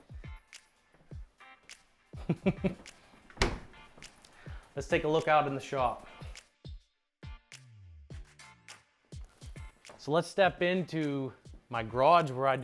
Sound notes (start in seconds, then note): 0.0 soft music; 2.2 laughing; 6.8 soft music